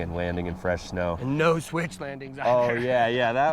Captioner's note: laughs